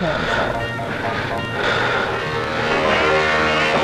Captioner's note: heavy breathing